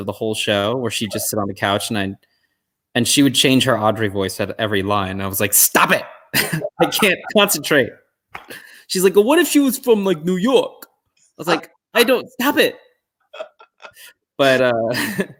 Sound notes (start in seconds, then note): 6.4 laugh; 13.3 chuckle